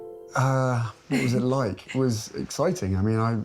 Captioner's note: chuckling